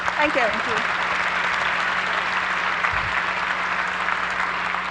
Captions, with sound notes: (applause) Thank you. - Thank you. (applause)